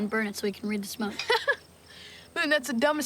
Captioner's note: laughs